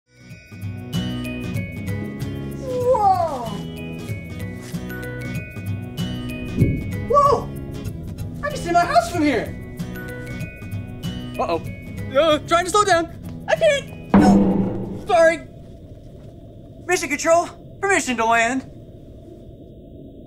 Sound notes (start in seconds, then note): 0.2 gentle music; 14.1 metal clangs